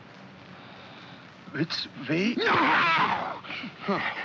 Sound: Felix cries out

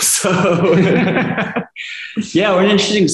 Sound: laughter

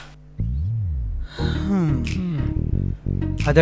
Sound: Nandan sighs heavily

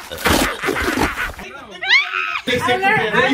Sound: Steph laughing

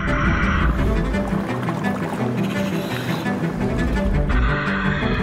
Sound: scuba mask hissing; water rippling

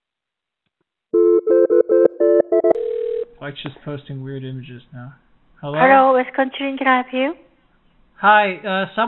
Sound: phone rings

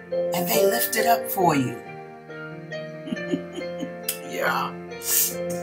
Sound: chuckle

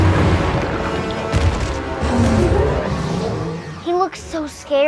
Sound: loud rumbling; intense music

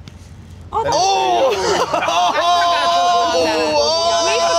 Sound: jeering

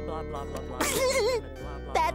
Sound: laughing

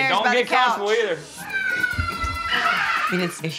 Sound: kids yelling and laughing

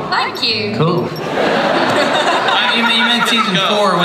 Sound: laughter

